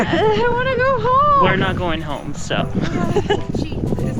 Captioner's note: whines